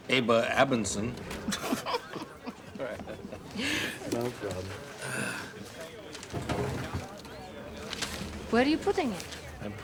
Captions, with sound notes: (both laugh) All right. No problem. (sighs) - Where are you putting it?